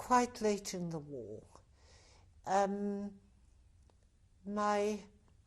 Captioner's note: pauses for 3 seconds